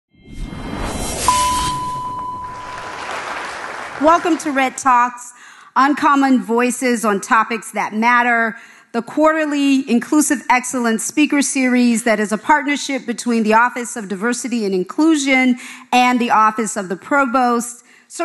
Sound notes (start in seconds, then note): 1.2 bright jingle; 2.2 audience applauding